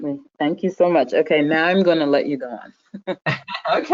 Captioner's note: laughing